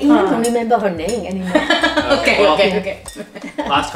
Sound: laughs

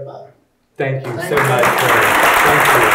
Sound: audience applauding

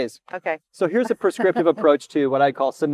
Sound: chuckles

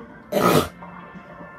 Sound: snort

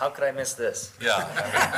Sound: laughing

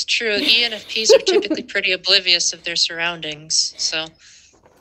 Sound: laughter

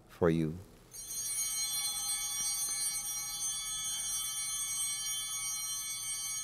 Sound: bell ringing

